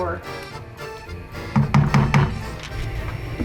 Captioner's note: bang, bang, bang